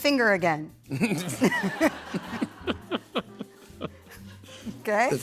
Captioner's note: laughter